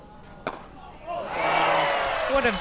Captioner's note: crowd applauds